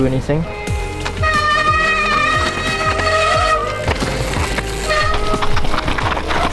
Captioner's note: relaxing music; bicycle braking